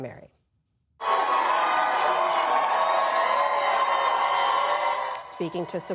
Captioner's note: cheering